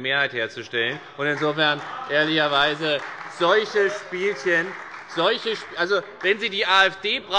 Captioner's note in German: Beifall bei der FDP und der CDU